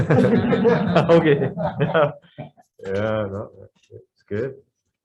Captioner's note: group laughs